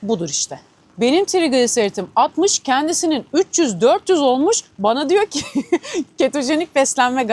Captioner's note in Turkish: kahkaha